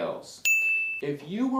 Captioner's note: bell rings